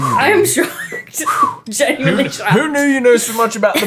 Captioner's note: exhaling